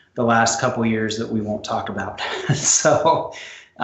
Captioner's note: laughs